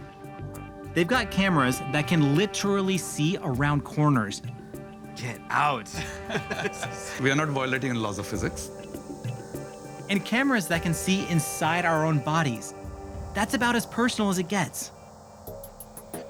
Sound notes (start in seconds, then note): 5.9 both laughing